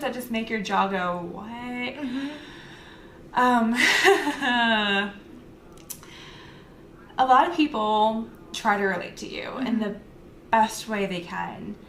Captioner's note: laugher/sigh